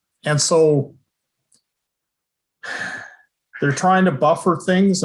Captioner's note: sigh